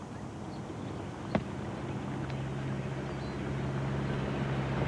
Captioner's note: car approaching